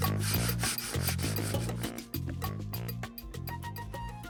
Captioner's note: paper sanding; soft delicate music